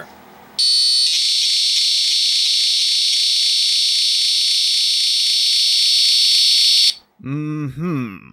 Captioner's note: electronic buzzing